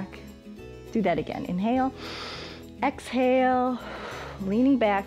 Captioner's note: exhales; inhales